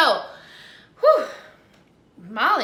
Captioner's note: sighs